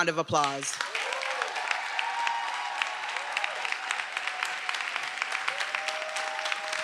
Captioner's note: everyone applauding; attendees cheering